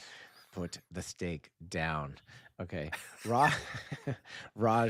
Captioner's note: laughing